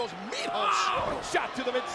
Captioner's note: John Cena shrieking; body thudding